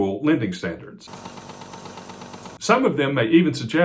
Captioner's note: tape scrolling